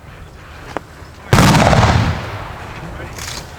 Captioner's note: gunshots firing